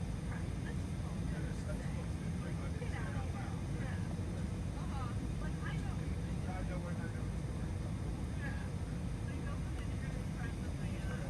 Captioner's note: ambient plane noise